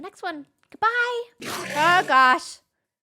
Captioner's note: enderman sound